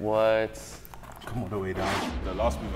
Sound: screen whooshes

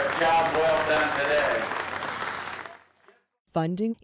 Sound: applause

